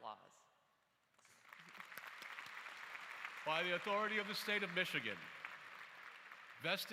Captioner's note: applause